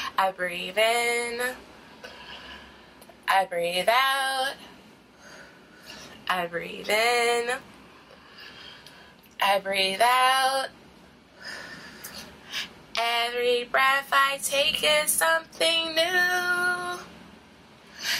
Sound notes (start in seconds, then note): 2.0 inhale; 5.2 exhale; 8.1 inhale; 11.4 exhale